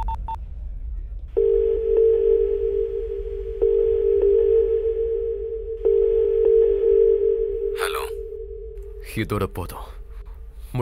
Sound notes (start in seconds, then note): 1.4 line ringing